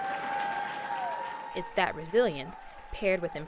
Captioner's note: audience applauding